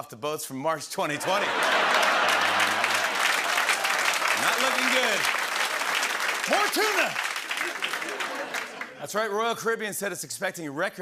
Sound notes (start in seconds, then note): 1.2 laughter and applause; 7.5 laughter